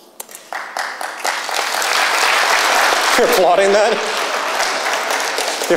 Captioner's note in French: Applaudissements